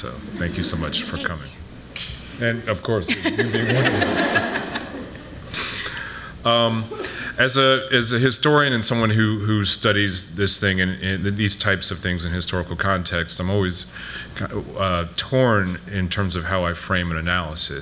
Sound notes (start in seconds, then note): 3.0 audience laughing